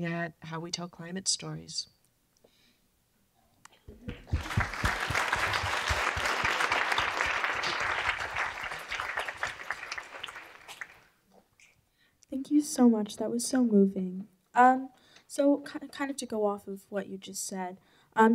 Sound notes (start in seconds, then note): 4.0 applause